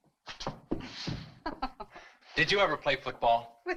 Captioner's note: woman chuckles